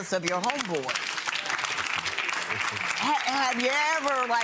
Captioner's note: audience applauding